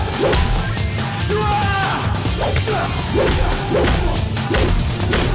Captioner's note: henchman shouting; blows thudding